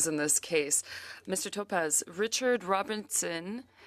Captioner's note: speaking French